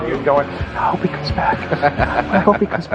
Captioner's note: laughing